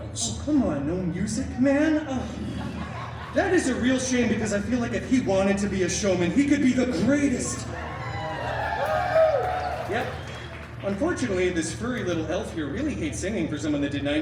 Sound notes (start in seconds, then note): 7.6 guests cheering